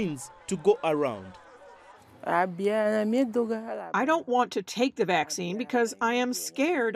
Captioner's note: through translator